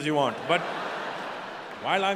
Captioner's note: audience laughing